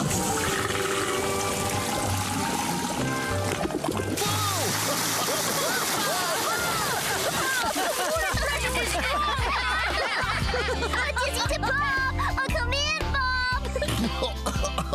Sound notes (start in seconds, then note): 4.7 splash!; 6.7 laughter; 10.7 laughter; 13.8 coughing